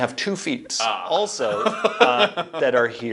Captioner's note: laughs